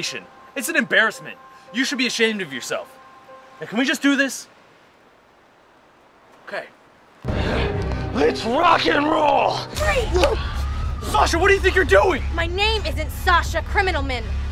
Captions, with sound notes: It's an embarrassment. You should be ashamed of yourself. So can we just do this? Okay Let's Rock and roll Freeze!! [Police Siren] Sasha what do you think you're doing? My name isn't "Sasha Criminalmen".